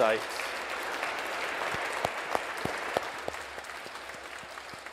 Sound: audience applauding

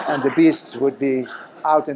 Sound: laughter

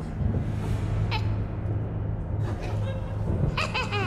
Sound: cackles

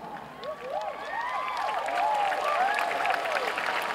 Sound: cheering

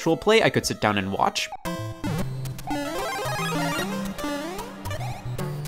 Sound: super mario sound effects

